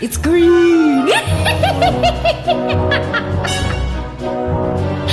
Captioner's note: evil cackling